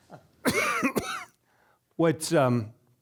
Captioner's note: coughing